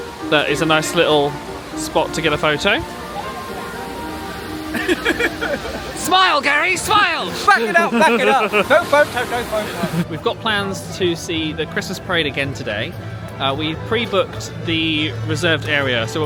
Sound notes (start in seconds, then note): 3.3 gentle music; 3.3 waterfall cascading; 4.7 laughing